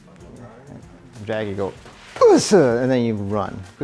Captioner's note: shouts